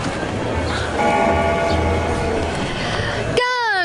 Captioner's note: bell ringing